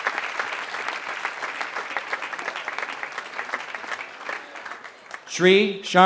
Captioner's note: applause